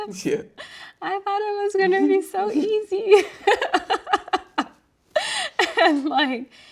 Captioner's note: laughing